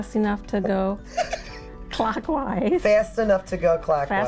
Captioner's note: laughing